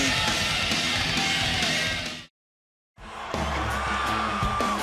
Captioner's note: crowd chatter